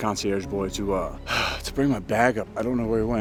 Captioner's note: sighs